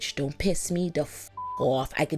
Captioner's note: beep